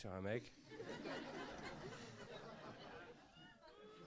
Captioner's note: laughs